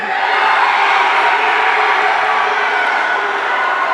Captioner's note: audience cheering